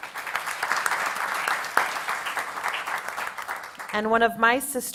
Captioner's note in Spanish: Aplausos